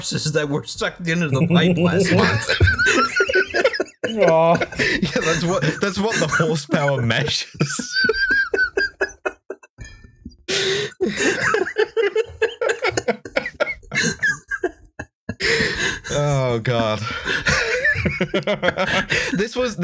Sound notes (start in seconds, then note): 1.3 laughter intensifies; 7.1 laughs so hard he knocks over something